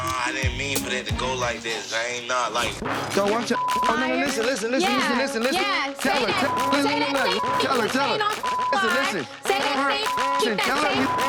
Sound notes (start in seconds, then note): 3.5 beep; 6.0 people yelling at once; 6.3 beep; 10.0 beep